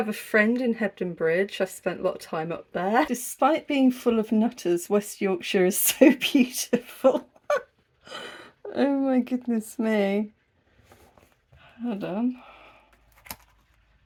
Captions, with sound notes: a friend in Hebden Bridge. I spent a lot of time up there. "Despite being full of nutters, West Yorkshire is so beautiful." [laughing] Oh my goodness me, hold on...